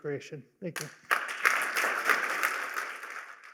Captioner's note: applause